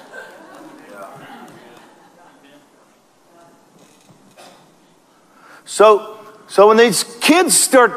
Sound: congregation laughs

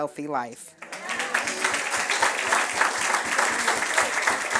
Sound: friends applauding

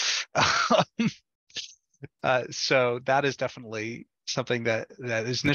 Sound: laughs

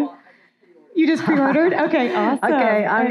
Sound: chuckling

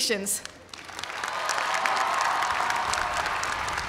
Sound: applause

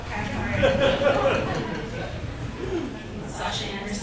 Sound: audience laughs

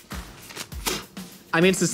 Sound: puffing air

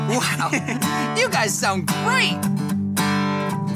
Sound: Marty giggles

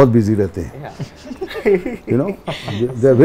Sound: laughs

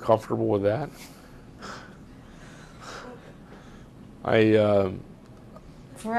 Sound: pauses for 3 seconds

